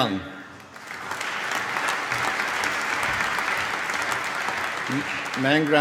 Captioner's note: applause